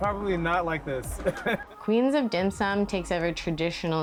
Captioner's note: laughs